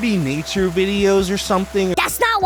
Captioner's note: water rushing